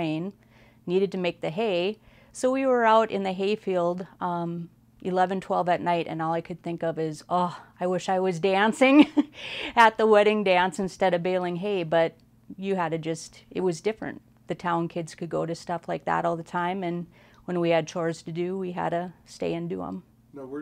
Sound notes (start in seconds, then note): 7.7 sighs